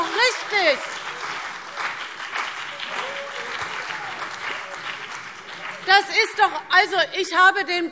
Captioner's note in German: Beifall CDU und BÜNDNIS 90/DIE GRÜNEN - Zurufe Freie Demokraten